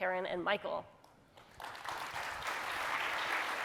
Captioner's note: applause